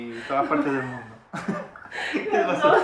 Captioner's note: laughter